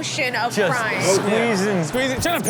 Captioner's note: crowd laughs